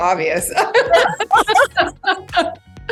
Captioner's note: laughter